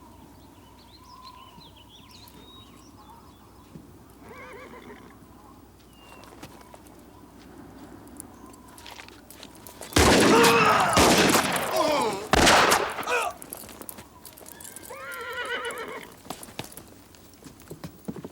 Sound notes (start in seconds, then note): 4.2 horse neighs; 9.9 guns fire; 9.9 town member groans; 9.9 gun fires; 10.0 town members groan; 14.7 horse neighs